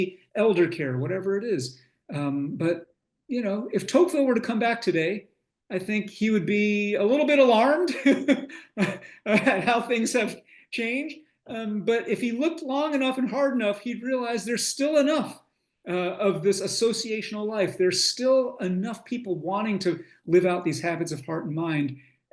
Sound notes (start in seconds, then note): 7.9 laughs